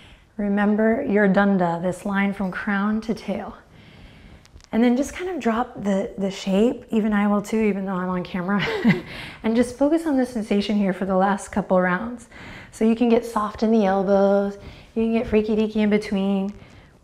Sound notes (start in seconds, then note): 8.6 chuckles